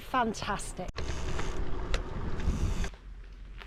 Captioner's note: sound of bike